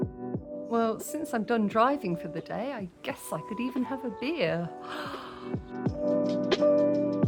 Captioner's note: gasp; chill music